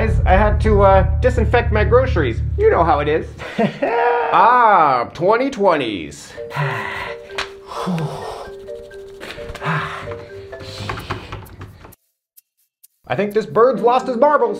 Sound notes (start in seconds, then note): 3.4 chuckles nervously; 6.2 quirky music; 6.3 2020s breathing heavily